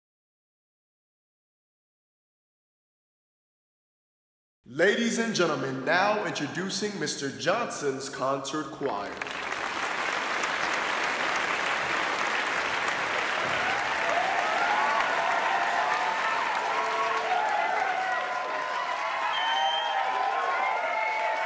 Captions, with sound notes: Ladies and gentlemen, now introducing Mr.Johnson's Concert Choir *clapping* *cheering*